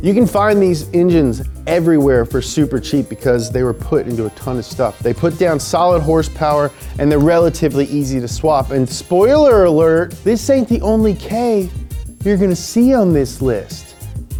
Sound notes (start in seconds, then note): none